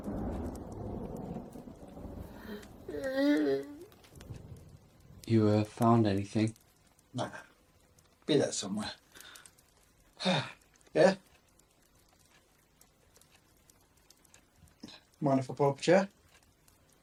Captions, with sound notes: (Tommy yawns) - You, uh, found anything? - Nah. Be there somewhere. Beer? Mind if I pull up a chair?